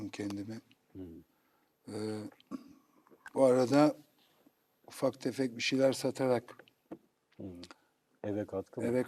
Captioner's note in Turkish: boğazını temizler